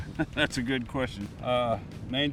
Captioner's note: chuckling